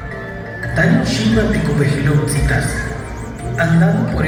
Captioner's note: Mayan language speaking